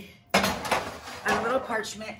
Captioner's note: trays clangs